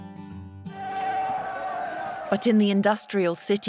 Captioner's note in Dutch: publiek schreeuwt